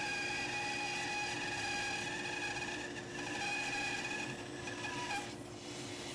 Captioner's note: bandsaw continues quietly whining